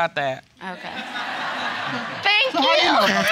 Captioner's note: audience laughing